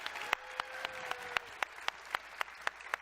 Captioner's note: applause